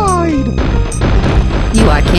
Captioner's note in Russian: бам-бам-бам